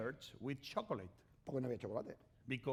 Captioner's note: speaking spanish